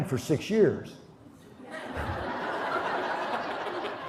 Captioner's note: laughter